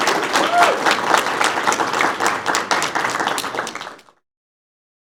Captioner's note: applause